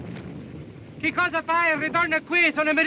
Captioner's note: speaking italian